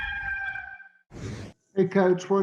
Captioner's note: cock crowing; air swooshing